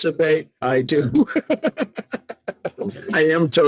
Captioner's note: laughing